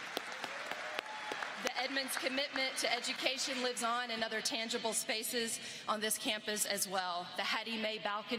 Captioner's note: applause